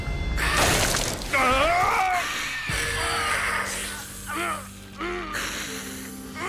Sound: grunting

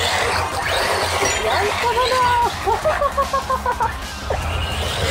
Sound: laughs

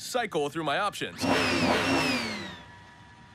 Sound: revving engine

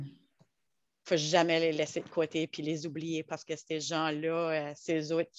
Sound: French

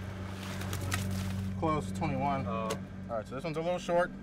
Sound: fish splashing

